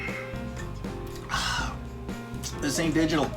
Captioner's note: exhales